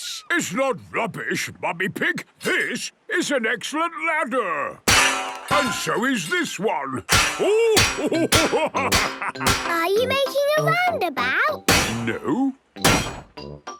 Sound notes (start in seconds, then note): 4.8 clanging; 7.9 laughing